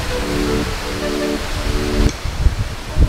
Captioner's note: crashing water